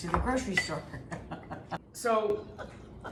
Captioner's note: both laughing